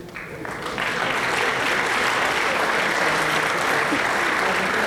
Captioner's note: applause